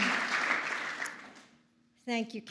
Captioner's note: applause